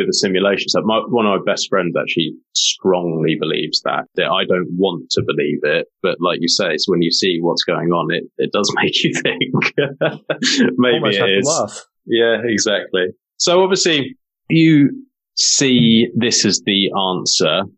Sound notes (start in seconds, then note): 8.6 laughing